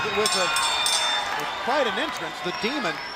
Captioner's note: bell ringing